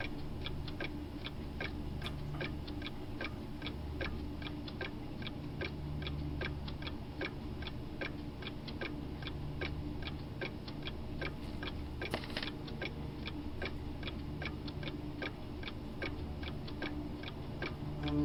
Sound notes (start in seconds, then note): 0.0 clock ticking continues; 10.6 clock ticking continues